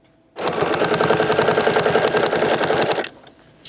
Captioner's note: machine whirring